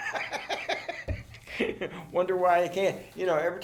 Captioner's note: laughs